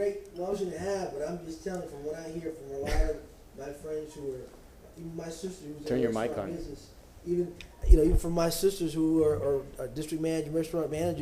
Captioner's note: off microphone